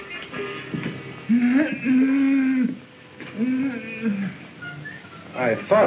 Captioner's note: muffled moans